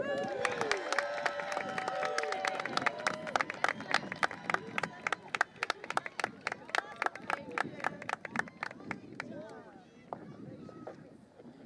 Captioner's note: crowd cheering